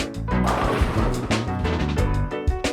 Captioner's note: upbeat music; pins crashing